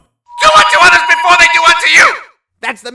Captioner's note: megaphone blaring